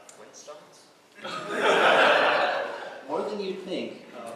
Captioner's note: laughter